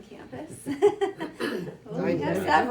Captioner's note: laughs